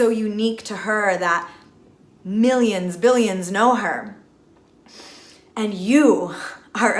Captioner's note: inhales